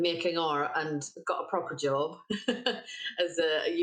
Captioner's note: laughs